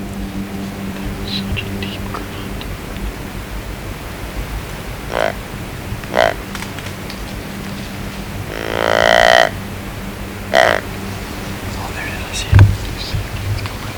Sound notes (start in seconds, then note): 1.0 whisper; 5.0 sound of grunt call; 8.5 loud grunt call